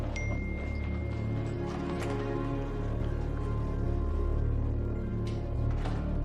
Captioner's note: door opens and closes